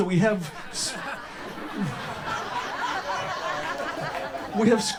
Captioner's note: audience laughter